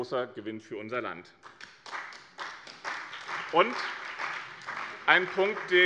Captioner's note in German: Beifall bei dem BÜNDNIS 90/DIE GRÜNEN und der CDU